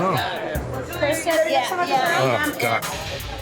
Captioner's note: chatter